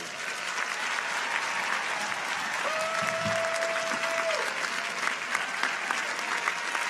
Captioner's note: audience applauds; audience cheers